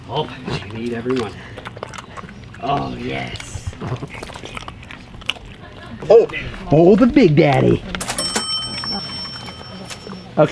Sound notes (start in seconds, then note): 4.3 treats crunching; 8.0 cash register dinging